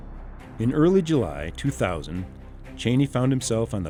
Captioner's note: voiceover